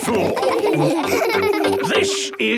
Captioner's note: laughing